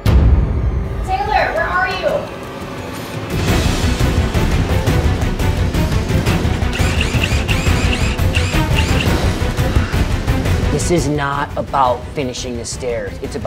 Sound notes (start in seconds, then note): 0.0 intense music; 2.5 intense music; 6.3 drill whirring